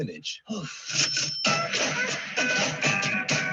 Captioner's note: player sighs